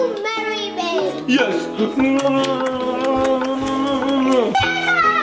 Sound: lips smacking

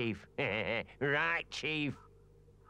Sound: chuckles

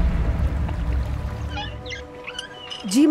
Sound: wheels creaking

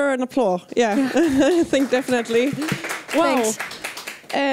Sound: applause

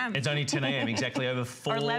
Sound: laughter

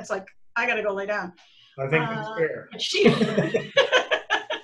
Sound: laughter

